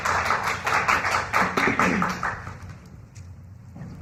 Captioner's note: applause